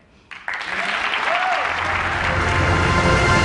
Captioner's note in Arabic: تصفيق